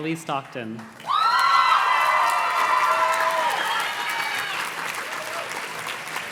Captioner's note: audience cheers and claps